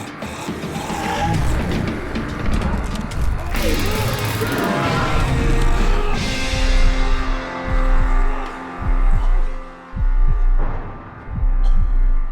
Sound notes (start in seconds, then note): 3.5 taser zapping; 6.3 heartbeat pounding